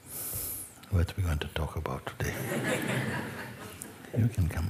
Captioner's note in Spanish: risas